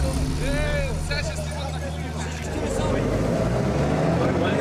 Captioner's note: vechicle engine revving